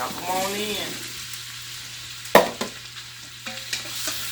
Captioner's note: oil sizzling